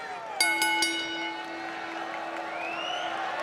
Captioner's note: bell ringing